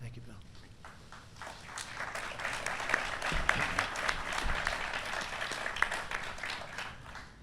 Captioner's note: applause